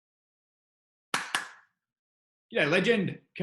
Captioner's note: clapping